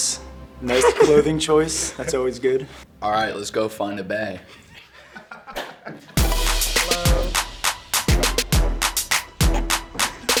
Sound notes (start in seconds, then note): 0.6 laughs; 4.4 laughs; 6.2 upbeat music